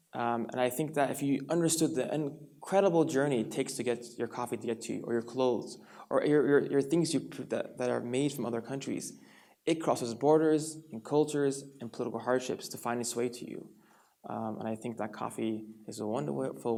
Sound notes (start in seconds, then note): none